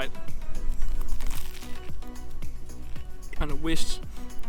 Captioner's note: crunchy crunches